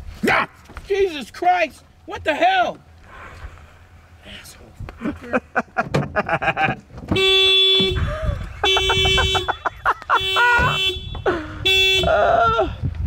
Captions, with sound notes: (yells) - Jesus Christ! What the hell? Asshole! (laughing) (car alarm blaring)